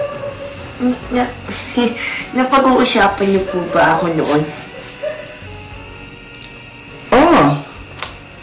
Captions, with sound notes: [stutters] Did you talk about me? Yes.